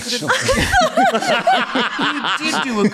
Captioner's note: laughter